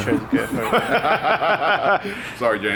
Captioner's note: men laughing